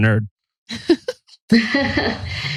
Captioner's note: laughs